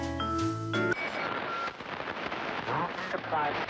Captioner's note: radio static